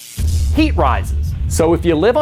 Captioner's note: electricity zaps and pounds